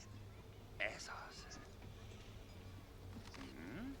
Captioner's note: people talking